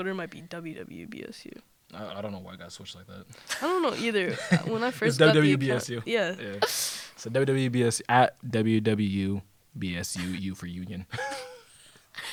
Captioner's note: laughter